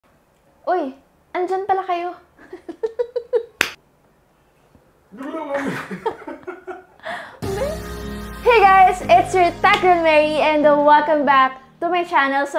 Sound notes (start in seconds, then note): 2.4 giggles; 5.2 laughs